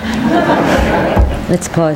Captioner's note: people laughing